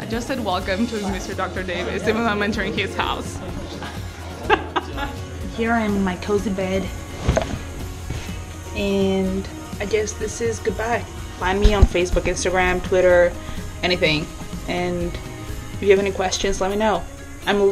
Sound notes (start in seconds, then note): 3.8 and man in group laughing